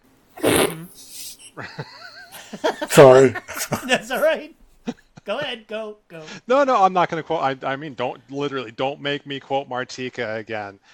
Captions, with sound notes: [Snicker] Sorry. [Laughing] Alright, go ahead. Go. No, no, I'm not going to call I, I mean don't literally don't make me quote Martika again.